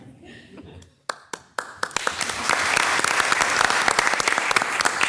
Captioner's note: audience applauds